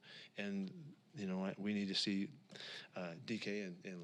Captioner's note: takes a breath